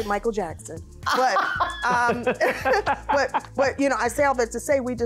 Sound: laughing

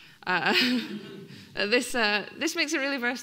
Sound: laughing; audience laughing

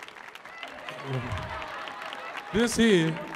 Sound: audience laughs

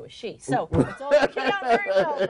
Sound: interviewer laughs

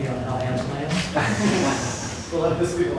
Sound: laughter

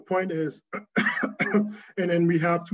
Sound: coughing

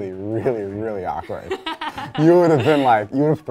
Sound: laughing

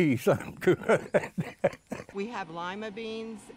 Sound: laughing

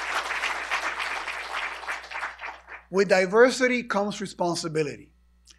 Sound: applause

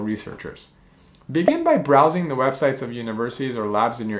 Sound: bubble popping

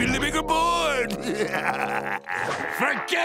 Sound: laughing evilly

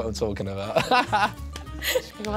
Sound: both laughing; laughing

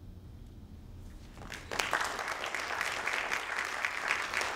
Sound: audience claps

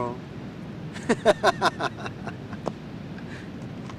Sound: laughs

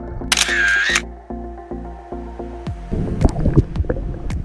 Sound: camera clicks

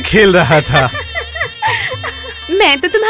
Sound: laughs

